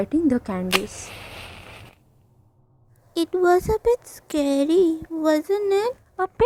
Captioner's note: lighting the matchstick sound